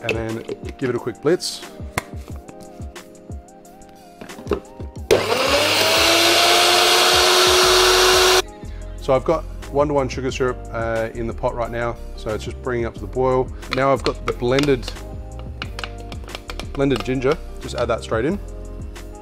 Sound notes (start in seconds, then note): 5.0 blender whirring